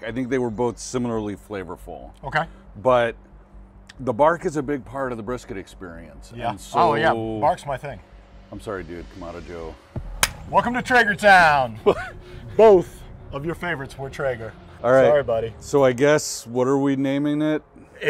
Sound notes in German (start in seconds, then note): 10.2 Hände klatschen